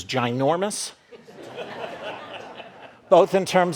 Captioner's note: audience laughing